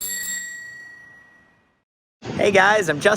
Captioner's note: bike bell ringing